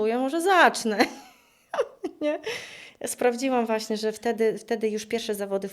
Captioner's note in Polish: śmiech